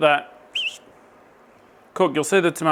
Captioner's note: whistle